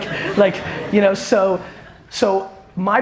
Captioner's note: audience laughter